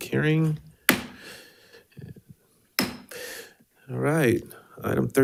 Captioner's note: gave thudding